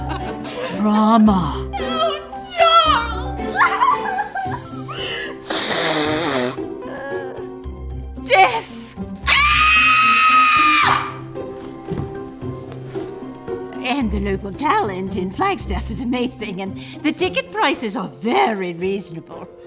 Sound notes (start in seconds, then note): 3.4 crying; 9.2 scream